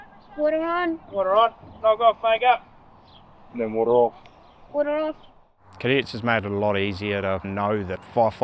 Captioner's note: indistinct shouting